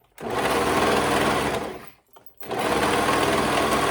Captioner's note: machine whirring